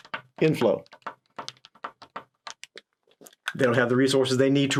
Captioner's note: pen tapping